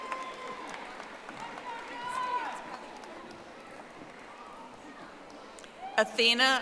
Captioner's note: audience applauding